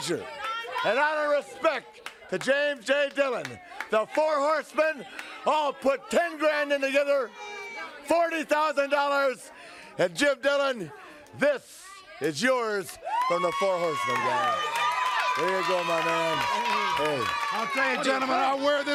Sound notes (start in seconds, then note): 12.8 crowd cheering